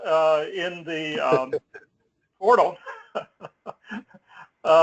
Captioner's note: laugh